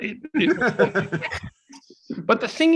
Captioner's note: laughs